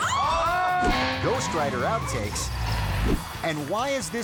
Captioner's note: waitress screaming; motorcycle buzzing